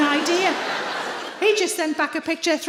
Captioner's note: audience laughs